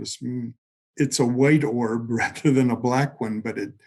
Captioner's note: chuckling